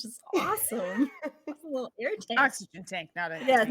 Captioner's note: laughing